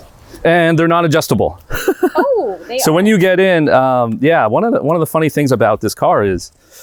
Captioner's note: laughs